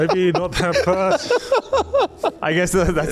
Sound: laughs

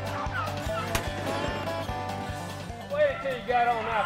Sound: gun fires

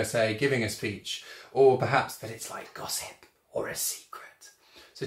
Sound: whispers

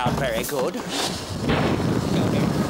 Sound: bang!

